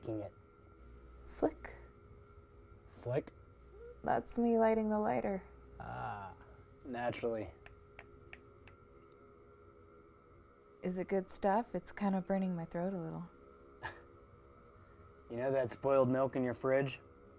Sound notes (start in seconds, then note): 6.7 lighter smacks against glass; 13.8 chuckle